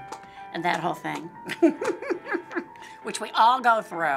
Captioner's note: laughing